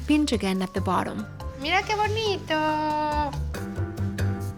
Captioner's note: speaking Spanish